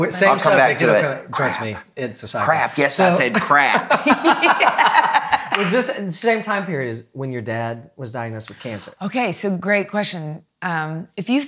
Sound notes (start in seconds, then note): 3.2 laughing